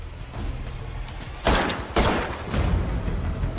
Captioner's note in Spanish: Disparos